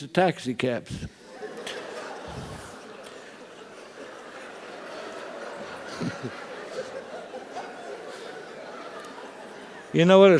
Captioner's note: laugh